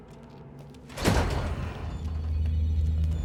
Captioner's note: door squeaks; eerie music